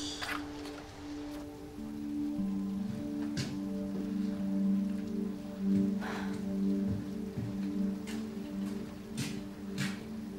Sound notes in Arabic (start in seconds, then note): 3.1 تنهدات سيليس